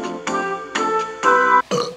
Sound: elevator music; burp

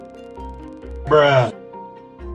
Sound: Bruh Sound Effect #2

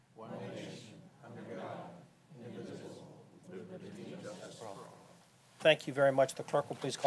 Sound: pledge of allegiance recited

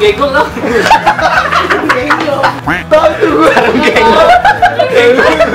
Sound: laugh

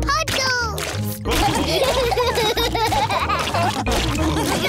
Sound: laughter

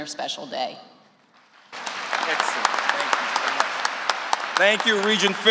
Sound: applause

